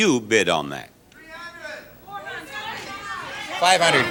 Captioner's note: audience yells suggestion